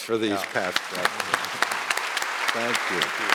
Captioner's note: audience applauding